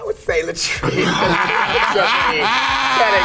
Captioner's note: group laughs